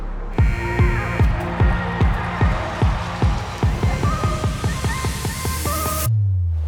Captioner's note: upbeat music; buzzer rings